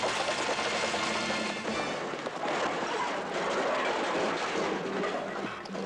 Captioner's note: loud clattering